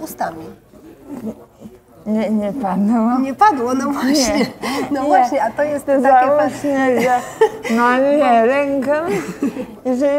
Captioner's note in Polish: śmiech